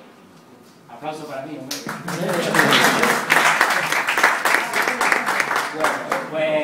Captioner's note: laugh & applause